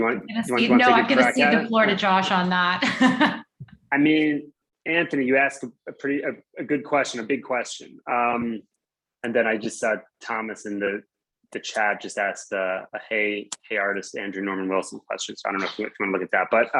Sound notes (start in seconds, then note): 2.9 laughs